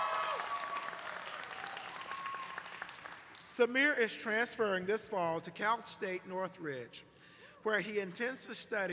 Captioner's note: cheers and applause